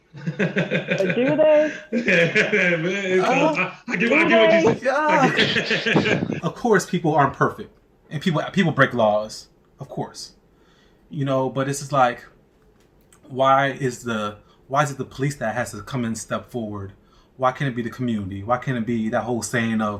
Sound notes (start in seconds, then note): 0.0 laughing; 3.0 all laughing